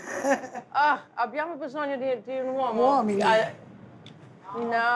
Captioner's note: speaking Italian